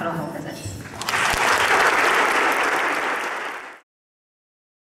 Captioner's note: applause